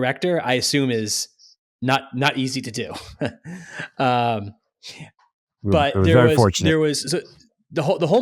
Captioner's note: laughs